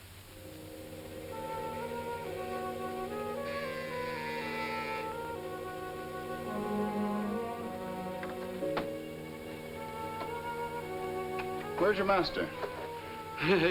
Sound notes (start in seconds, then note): 0.7 suspenseful music; 3.6 doorbell buzzes